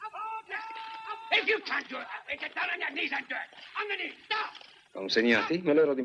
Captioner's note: man shouting